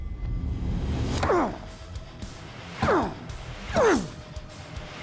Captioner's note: grunting